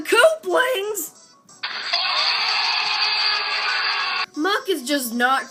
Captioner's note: crowd yelling